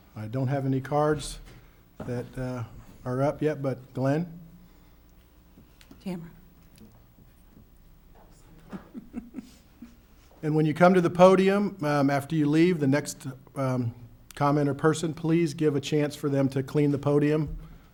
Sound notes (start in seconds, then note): 8.6 light laughter